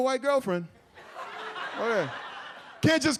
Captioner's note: audience laughs